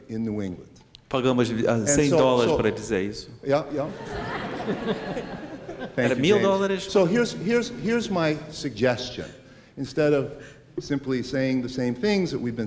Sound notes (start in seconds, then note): 1.1 speaking portuguese; 3.8 laughter; 5.9 speaking portuguese